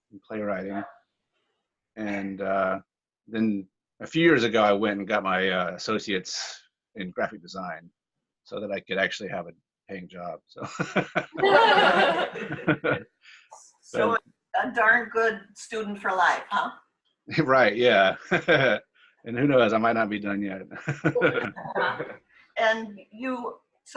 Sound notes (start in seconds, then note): 10.6 laughter; 21.1 laughs